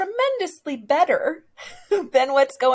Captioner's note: laughs